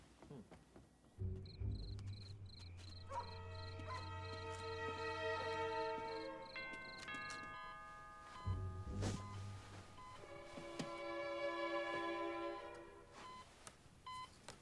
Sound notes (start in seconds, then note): 1.2 crickets chirping; 1.5 dog barks; 6.6 doorbell rings; 7.2 medical equipment beeping